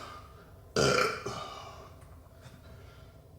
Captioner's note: belches